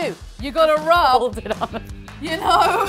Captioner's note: laughs